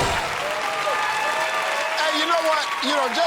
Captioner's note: cheers and applause